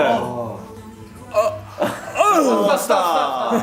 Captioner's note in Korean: 의문의 곡소리